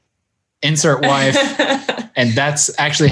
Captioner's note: laughing